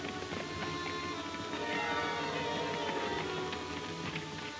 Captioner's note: horses galloping